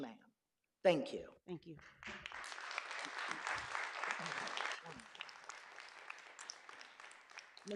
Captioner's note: clapping